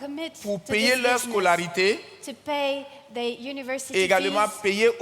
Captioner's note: continues in French